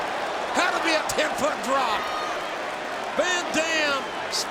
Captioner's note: audience applauding